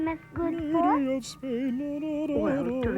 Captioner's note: Tom hums "Lady of Spain"